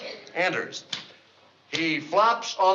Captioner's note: typing slowly